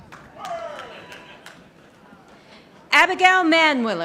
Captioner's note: audience applauding